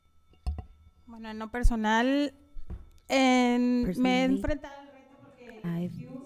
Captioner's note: panelist speaking in Spanish